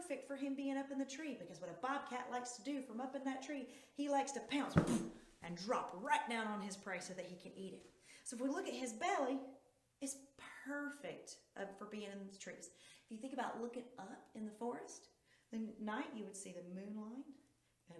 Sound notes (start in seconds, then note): 4.6 boof